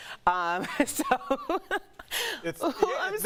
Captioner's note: laughter